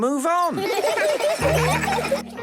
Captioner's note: laughter